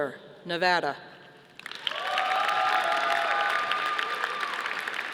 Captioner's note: audience applauding